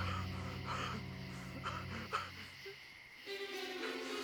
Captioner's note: crying